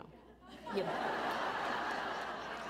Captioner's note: laughter